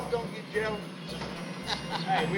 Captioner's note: laughter